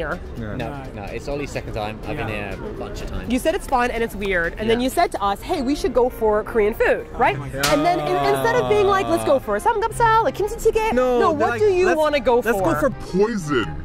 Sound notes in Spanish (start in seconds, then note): 7.4 se lamenta